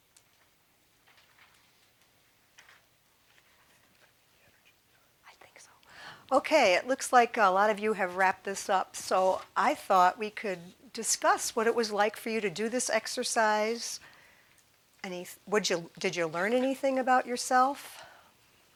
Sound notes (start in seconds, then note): 4.2 whispering